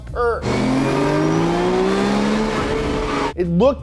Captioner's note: car running